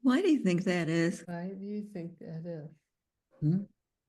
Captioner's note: softly spoken